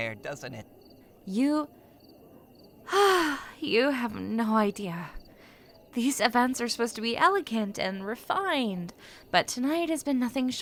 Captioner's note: sighs